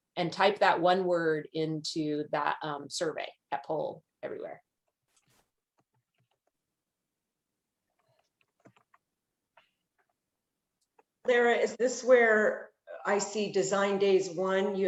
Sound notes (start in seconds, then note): 8.4 keyboard keys clicking